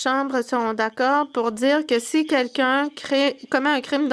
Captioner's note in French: voix de l'interprète